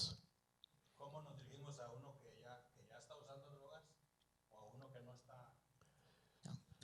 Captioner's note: Spanish language